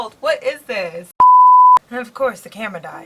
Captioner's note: beep